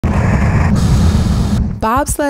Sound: whooshing

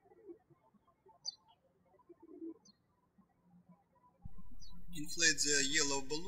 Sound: birds chirping

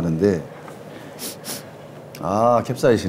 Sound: sniff

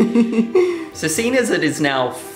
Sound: laughs

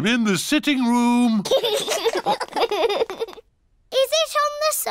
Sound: laughter

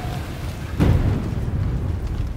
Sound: thunder

